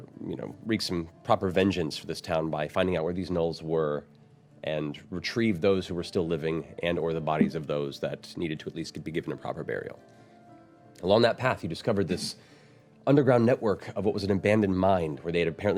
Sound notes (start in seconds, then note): none